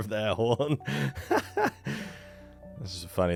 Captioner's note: laughs